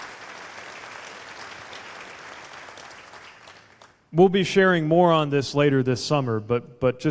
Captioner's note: applause